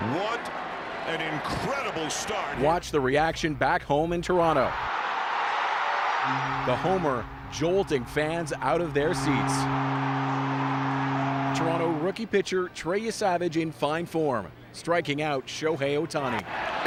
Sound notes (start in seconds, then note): 9.7 cheers and Applause; 13.1 cheers and Applause